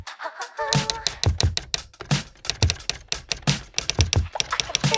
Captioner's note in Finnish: kirjoituskoneen naputus jatkuu